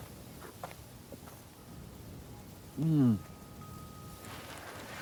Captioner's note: gulps